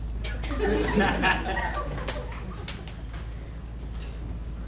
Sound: audience laughs

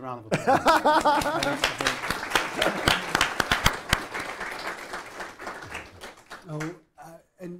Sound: laughs; attendees applaud

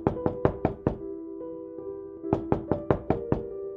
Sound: dramatic music; door knocking

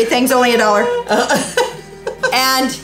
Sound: laughing

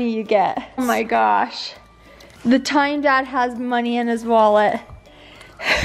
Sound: laughs

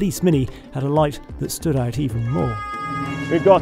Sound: siren wailing

